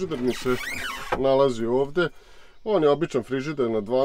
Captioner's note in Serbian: zvuk otvaranja